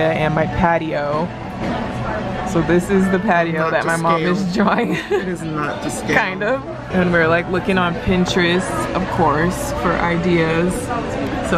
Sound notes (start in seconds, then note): 4.8 laughs